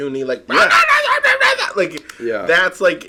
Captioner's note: yelling